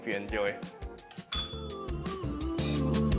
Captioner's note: bell rings